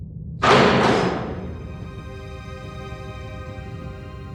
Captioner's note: thudding; dramatic music